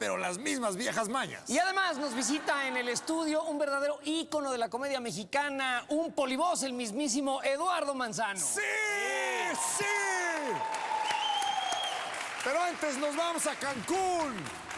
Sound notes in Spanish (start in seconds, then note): 1.8 risas; 11.6 aclamaciones; 12.0 aplausos; 13.0 aclamaciones; 13.4 aplausos